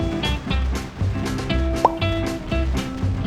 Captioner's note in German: pop